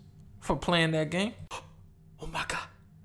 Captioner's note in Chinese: 喘氣